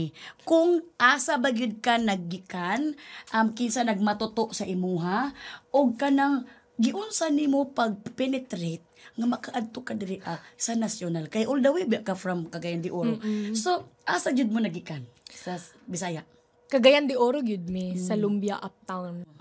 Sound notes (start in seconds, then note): none